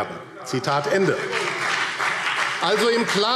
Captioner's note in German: Demonstrativer Beifall BÜNDNIS 90/DIE GRÜNEN